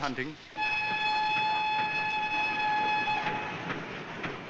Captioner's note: train whistle blows